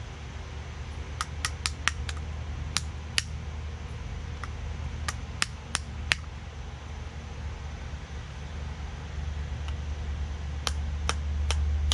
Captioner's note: tapping noise